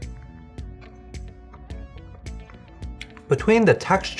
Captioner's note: chewing